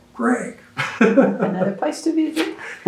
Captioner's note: laughs